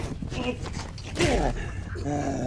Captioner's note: punch slams; assailant growling and cackling